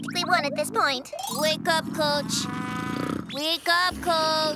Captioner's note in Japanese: ダンテのいびき